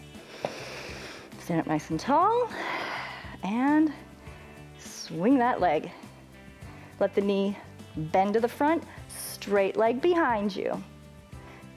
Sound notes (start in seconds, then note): 0.2 inhales; 2.5 exhales